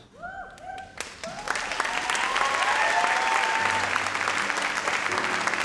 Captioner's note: audience cheers and applauds